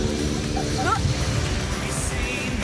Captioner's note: gags